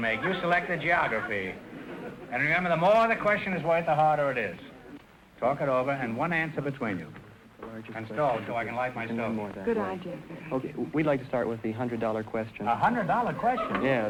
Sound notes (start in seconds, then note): 9.6 whispering